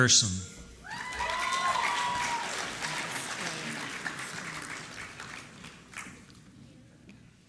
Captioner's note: applause